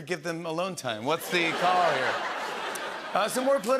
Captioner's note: laughter